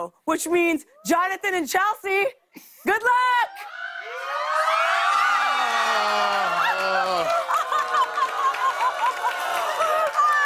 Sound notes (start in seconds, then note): 3.5 audience screams; 6.4 laughs; 7.5 applause